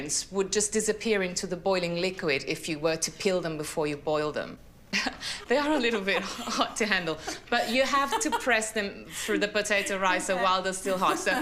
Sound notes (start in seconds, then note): 5.0 chuckles; 8.4 laughs; 10.8 laughs